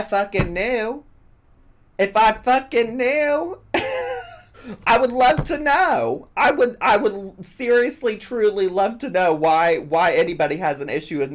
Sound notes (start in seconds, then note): 3.7 laughs